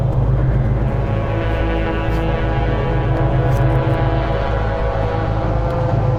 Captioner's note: ominous horn blowing